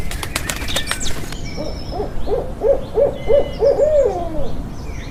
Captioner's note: wings flapping; bird chirping; owl hooting